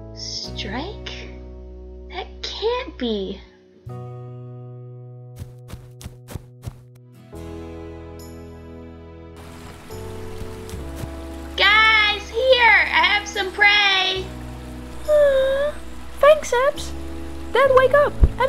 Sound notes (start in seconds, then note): 5.4 footsteps; 13.4 yawns